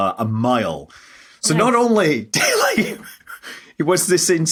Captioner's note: wheezes